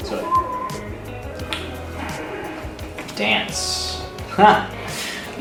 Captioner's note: whistles